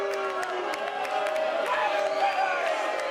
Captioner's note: cheers and boos